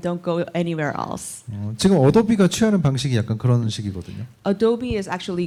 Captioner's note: speaking korean